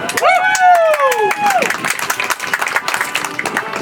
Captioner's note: audience applauds